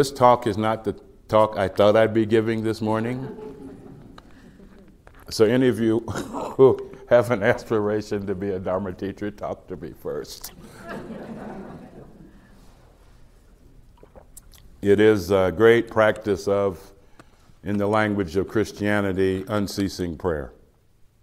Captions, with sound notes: So, this talk is not the talk I thought I'd be giving this morning. (Slight laughter) So any of you who have an aspiration to be a dharma teacher talk to me first. (Laughter) It is a great practice of, in the language of Christianity, unceasing prayer,